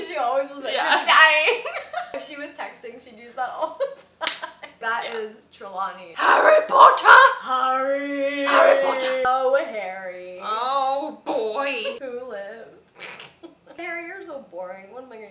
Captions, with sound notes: She always was like, you're dying! If she was texting, she'd use that all the time. That is Trelawney. - Harry Potter! - Harrryy! - Harry Potter! - Oh, Harrry. - Oh boy, - who lived. (snickering laughter) - Harry, you're so boring.